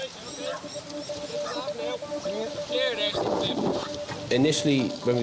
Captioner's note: rescuers chatting